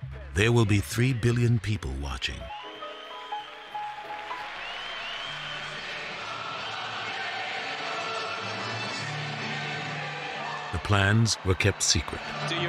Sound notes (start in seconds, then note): 2.3 triumphant music; 3.3 audience cheers